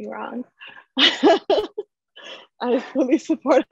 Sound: chuckles

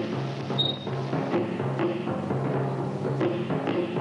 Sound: creaking

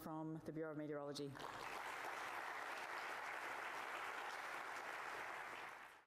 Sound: applause

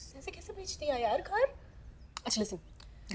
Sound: none

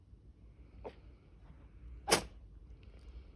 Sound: cat sneezes

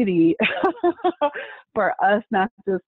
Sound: laughing

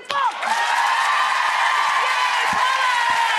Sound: audience cheers; audience applauding

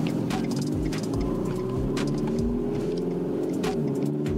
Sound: signal clicking

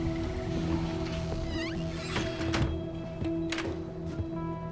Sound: door squeaking

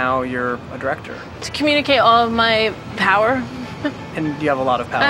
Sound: chuckling

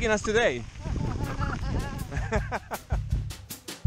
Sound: laughter

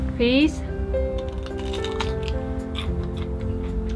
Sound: crunch

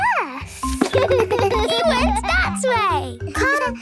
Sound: giggles

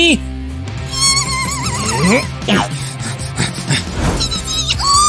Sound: making frightened sounds

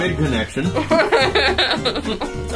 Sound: laughing

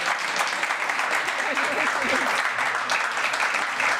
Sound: applause

